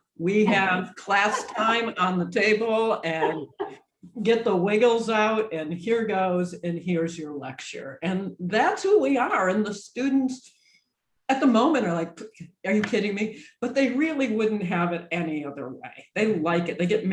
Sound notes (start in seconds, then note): 1.0 laughs